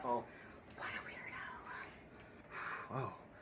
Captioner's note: whispers